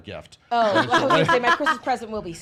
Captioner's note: laughs